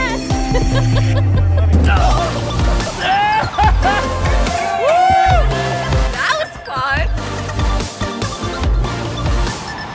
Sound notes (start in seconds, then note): 0.0 laughter in the background; 2.5 thudding sound.Cheering in the background